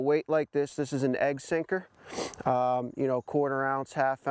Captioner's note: sniffs